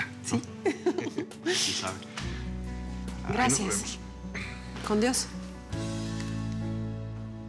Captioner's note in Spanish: Risas